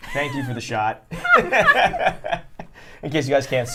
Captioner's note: laughter